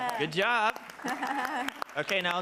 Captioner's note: attendees clapping; chuckles